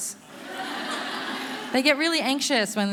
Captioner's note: audience laughing